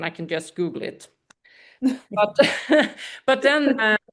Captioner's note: laughter